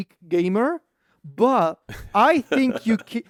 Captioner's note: laughs